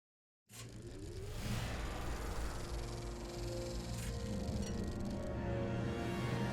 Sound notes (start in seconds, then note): 0.7 projector sound